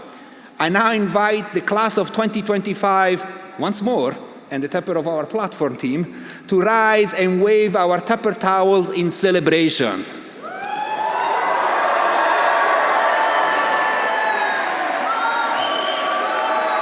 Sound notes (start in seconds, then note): 10.4 audience cheering; 10.5 audience applauding